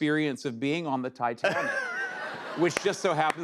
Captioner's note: laughter